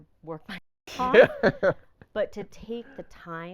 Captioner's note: laughing